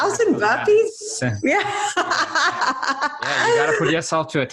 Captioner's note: laughs